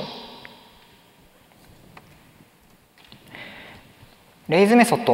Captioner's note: silence